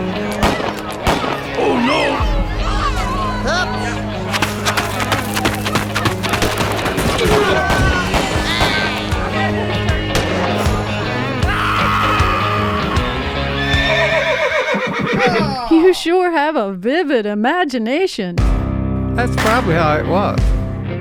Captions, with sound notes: [dogs barking, gun shots, yelling, running, bank robbery, horse neighing] You sure have a vivid imagination. That's probably how it was.